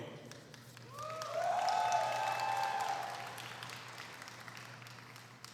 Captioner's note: applause